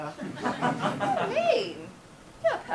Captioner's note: audience laughs